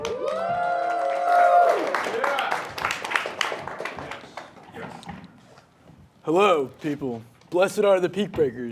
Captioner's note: audience cheering